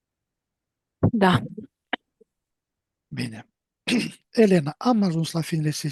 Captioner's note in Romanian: voce dreasă